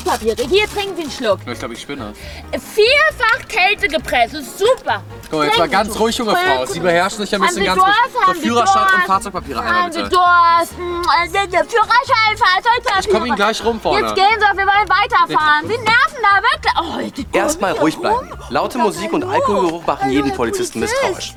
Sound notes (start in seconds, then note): 10.7 sie grölt rum